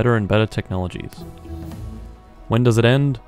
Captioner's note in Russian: Звук завершения исследования